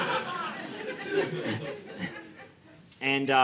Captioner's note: audience laughing